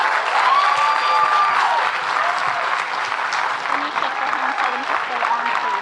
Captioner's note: audience clapping and cheering